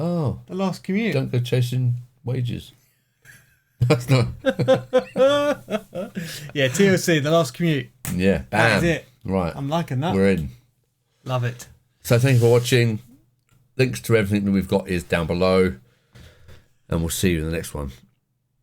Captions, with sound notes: Oh. The last commute. Don't go chasing wages. That's not. (laughing) Yeah, TLC, the last commute. Yeah, bam. That's it. Right. I'm liking that. We're in. Love it. So thanks for watching. Links to everything that we've got is down below. And we'll see you in the next one.